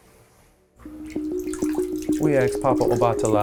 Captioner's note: water trickles; melodic music